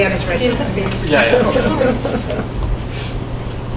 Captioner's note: laughing